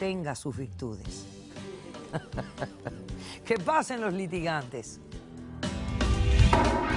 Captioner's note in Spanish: Risas